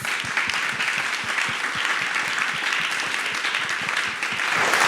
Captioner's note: audience applauding